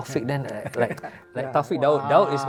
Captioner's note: clap